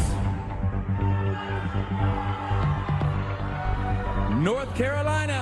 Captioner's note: crowd shouting